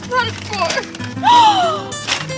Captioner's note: Cheri gasps